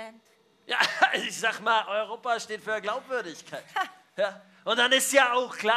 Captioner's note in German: lacht